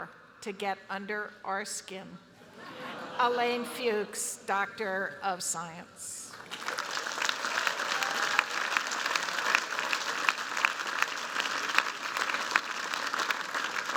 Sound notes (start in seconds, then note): 6.3 applause